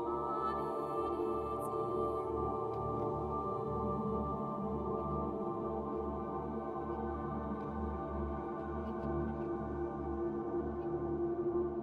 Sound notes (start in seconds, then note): none